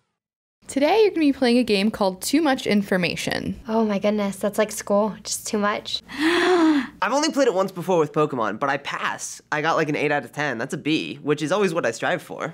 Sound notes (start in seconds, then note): 6.1 gasping